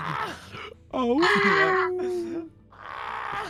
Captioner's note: howling